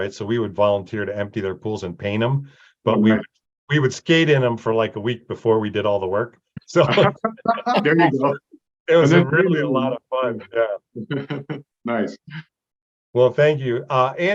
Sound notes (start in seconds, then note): 6.7 everybody laughing; 9.0 chuckles